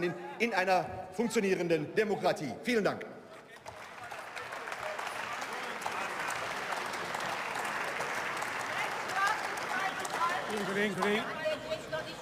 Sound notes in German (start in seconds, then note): 3.4 Zwischenrufe und Beifall